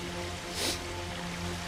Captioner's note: sniff